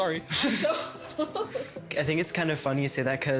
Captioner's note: laughing